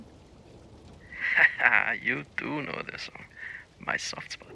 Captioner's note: laughs